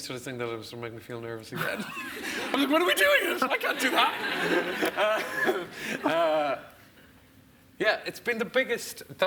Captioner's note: laughs